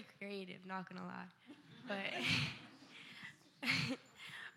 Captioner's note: laughter